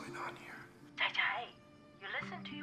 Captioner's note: speaking foreign language